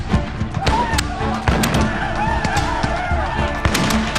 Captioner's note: gun bangs; gun clicking; dramatic music continues